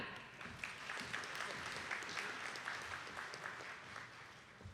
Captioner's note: attendees clapping